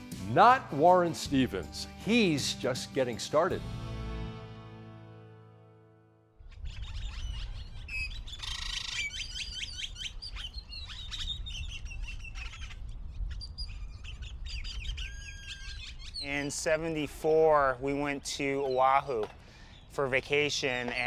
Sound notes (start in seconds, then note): 6.5 birds chirping